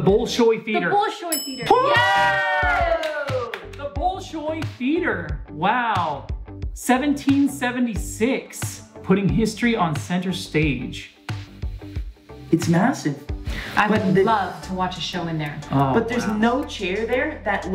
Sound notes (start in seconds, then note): 1.3 bell dings